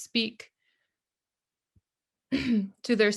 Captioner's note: speaker clears her throat